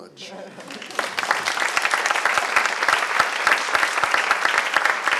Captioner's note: applause